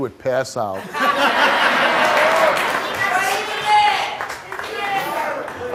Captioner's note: audience laughing